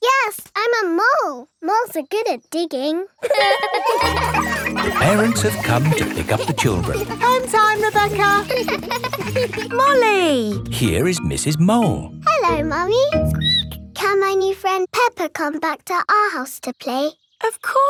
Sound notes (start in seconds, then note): 3.5 laughing; 8.9 laughing; 13.4 squeaks